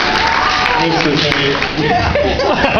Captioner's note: laughter